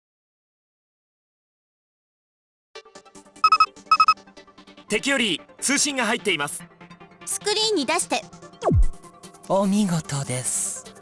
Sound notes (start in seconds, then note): none